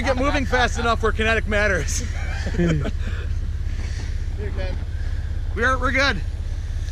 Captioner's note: laughing